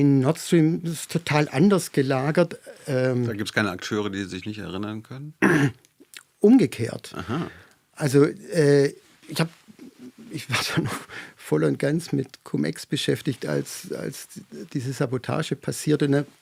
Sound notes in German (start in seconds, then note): 5.4 räuspern; 10.6 gelächter